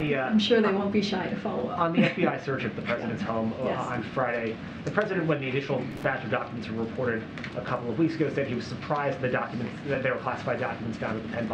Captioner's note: laughter